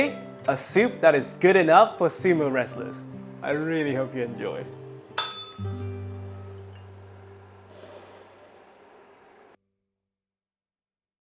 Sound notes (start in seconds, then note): 5.2 bell rings